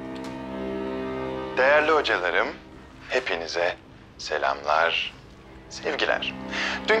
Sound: Akif voice

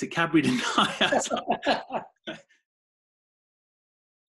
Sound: laughing

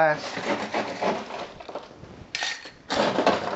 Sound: ice clinking

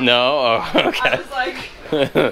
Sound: laughs

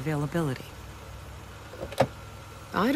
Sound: car door opens and closes

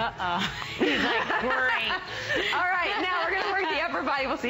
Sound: laughter

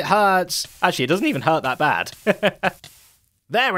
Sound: laughs

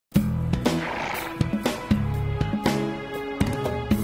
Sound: upbeat music; horse neighs

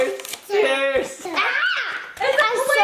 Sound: yells

